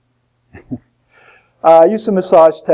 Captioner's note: laughs